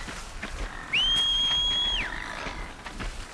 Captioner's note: whistle